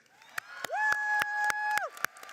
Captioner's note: applauding